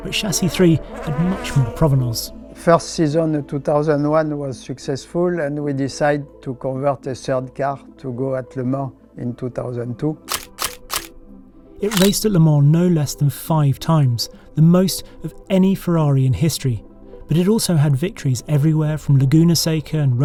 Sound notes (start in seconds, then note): 10.3 camera clicking